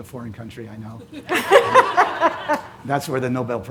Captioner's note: audience laughs